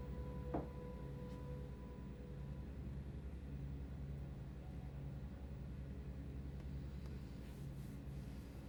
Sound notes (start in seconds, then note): 0.6 bottle thuds; 4.1 suspenseful dramatic music continues